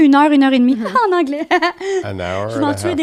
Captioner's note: in french; laughing